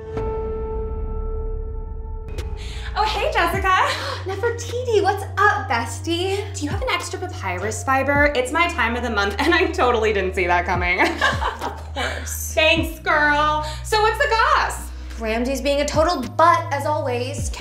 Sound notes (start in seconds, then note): 0.3 sustained piano note; 11.0 laughing